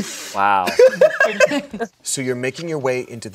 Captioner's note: laughs